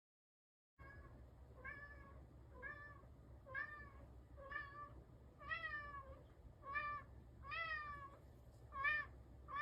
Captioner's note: cat meowing, quietly, repeatedly; cat continues meowing insistently